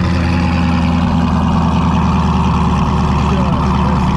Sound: car engine running

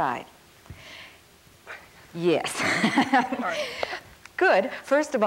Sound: laughs

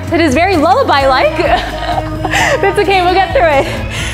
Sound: chuckles

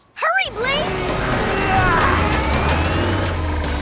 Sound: grunting

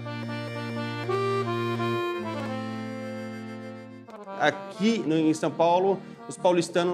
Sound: speaking Portuguese

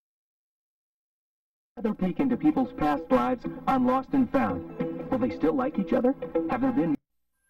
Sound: on TV

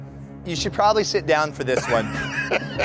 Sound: laughter

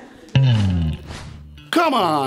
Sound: air whooshing

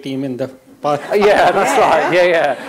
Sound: laughter

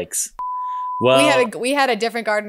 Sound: beep

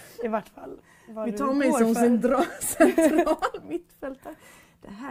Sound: both laugh

